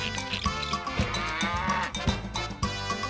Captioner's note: cow moos